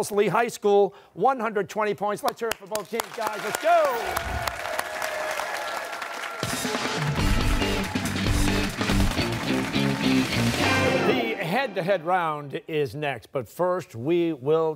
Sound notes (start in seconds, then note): 4.6 cheers and applause